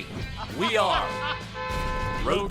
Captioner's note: laughing; car honking